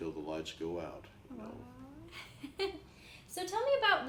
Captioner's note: laughs